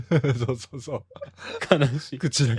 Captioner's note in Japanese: 笑い